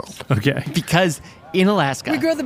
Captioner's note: laughs